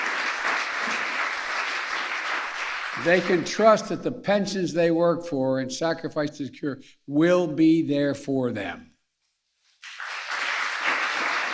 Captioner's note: applause